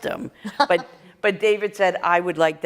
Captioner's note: laughter